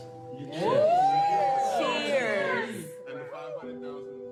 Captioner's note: all cheering